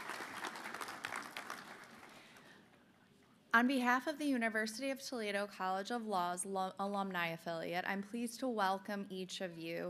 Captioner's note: applause